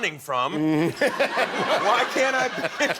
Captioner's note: laughter